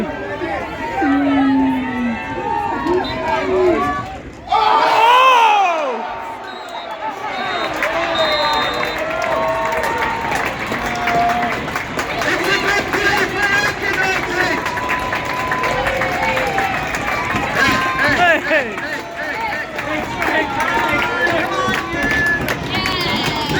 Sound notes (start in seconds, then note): 0.3 cheers, boos and the whistle blows; 4.5 very loud screams; 6.6 round of applause; 7.2 the final whistle blows; 14.9 applause; 20.5 applause